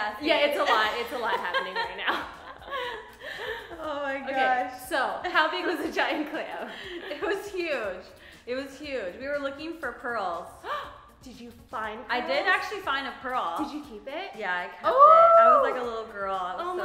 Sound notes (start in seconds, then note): 2.8 laughs